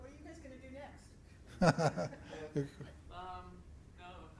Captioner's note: laughs